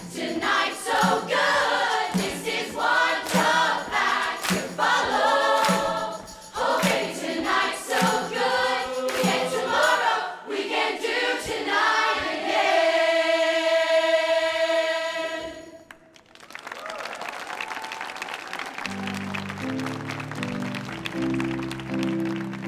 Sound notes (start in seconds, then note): 15.8 audience applauding; 18.8 gentle keyboard music